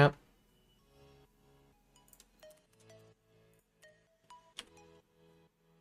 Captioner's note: typing